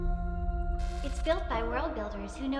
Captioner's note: ghost fizzing